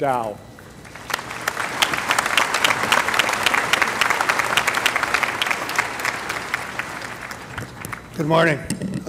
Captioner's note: applause